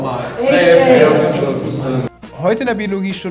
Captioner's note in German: Stimmengewirr